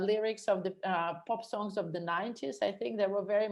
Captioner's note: stutters